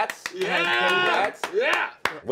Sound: clapping

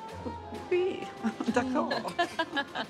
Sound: speaking French; laughing

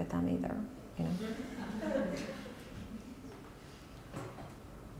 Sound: soft laughter

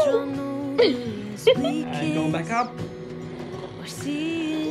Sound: laughs

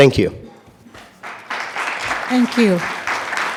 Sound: attendees clapping

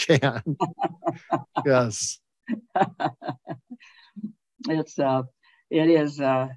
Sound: Ambassador Hills laughing; chuckles

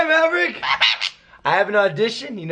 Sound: squawk

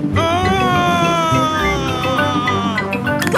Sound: screaming

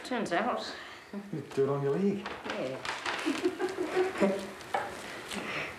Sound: laughs

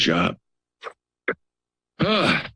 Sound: sniffles

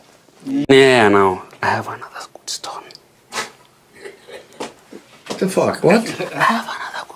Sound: whispers; whispering

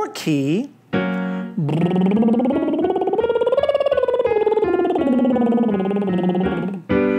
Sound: soft music continues; trilling

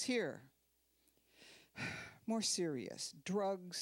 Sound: sighing

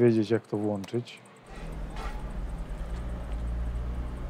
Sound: car noise in the background

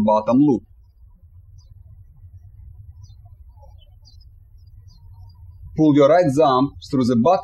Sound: birds chirping

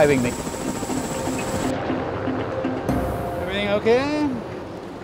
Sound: helicopter whirring; adventurous music

